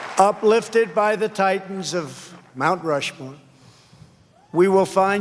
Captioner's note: cheers and applause